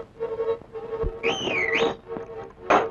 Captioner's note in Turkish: Islık sesi